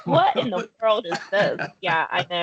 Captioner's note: laughing